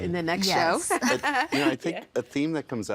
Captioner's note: laughing